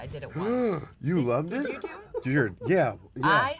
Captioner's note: gasps